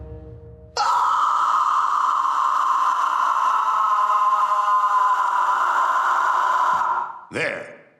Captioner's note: screeching